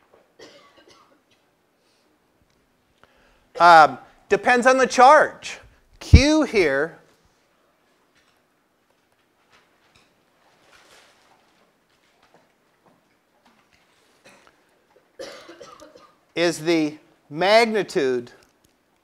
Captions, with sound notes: [COUGH] Depends on the charge, Q here. [COUGH] Is the magnitude.